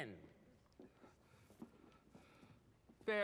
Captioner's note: breathes nervously